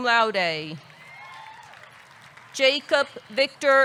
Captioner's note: audience clapping; audience cheering